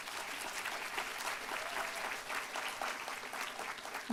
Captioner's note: applause